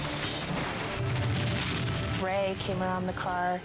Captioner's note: pump exploding